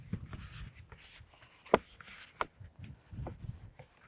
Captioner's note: tube rustling